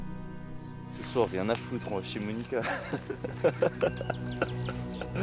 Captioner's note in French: rires